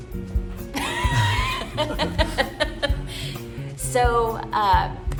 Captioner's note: laughter